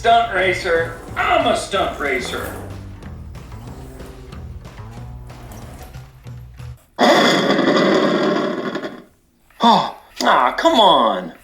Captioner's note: engine Revving Sound!